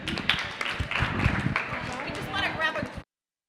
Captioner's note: audience applaud